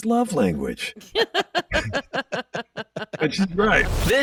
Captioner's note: laughing